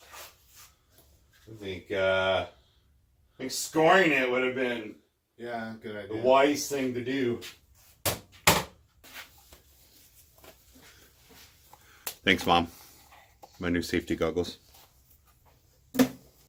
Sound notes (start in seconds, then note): none